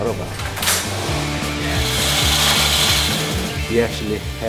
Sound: background machine sounds

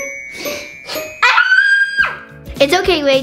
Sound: screams

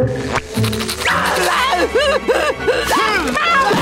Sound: whimpering; screaming

